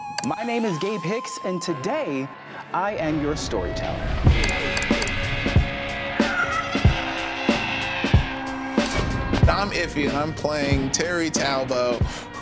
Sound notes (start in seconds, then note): 4.4 mouse clicks; 6.8 eerie music